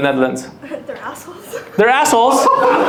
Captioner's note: laughs